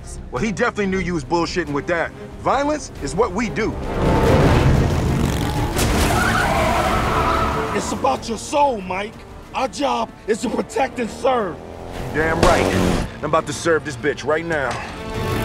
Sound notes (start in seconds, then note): 3.7 engine revving; 3.7 tires screeching